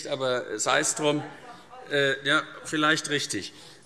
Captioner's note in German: Zuruf